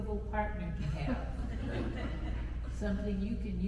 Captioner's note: attendees chuckle